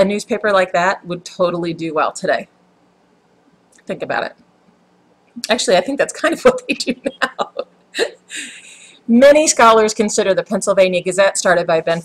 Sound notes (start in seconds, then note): 6.6 haha